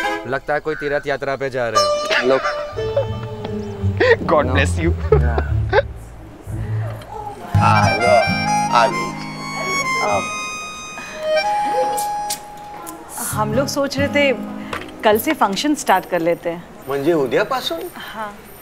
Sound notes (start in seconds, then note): 2.0 Dhawan laughs; 4.8 Laughs